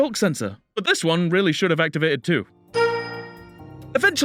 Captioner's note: ding